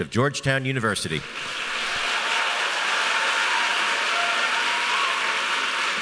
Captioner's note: audience applauding